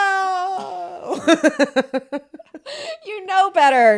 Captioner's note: both laughing